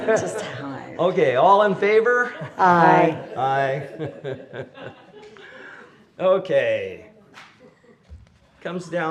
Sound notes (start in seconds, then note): 0.0 laughter; 3.6 laughter